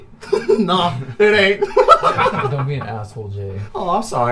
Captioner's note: laughing